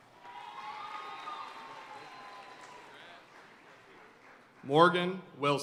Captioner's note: audience cheering and applauding